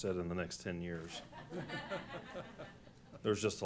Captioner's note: laughter